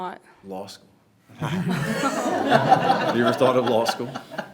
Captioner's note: everyone laughs